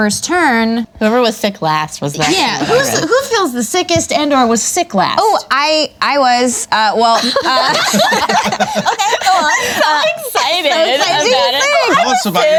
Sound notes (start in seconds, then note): 7.2 everyone laughs